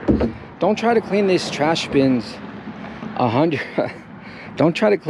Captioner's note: chuckles